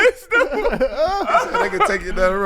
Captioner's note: laughing